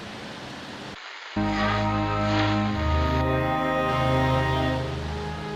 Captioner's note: radio